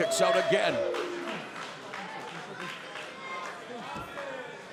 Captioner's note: crowd shouting